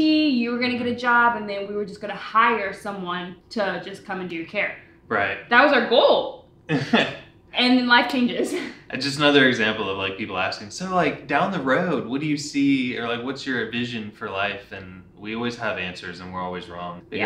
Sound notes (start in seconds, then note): 6.7 chuckles